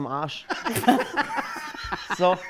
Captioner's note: Lachen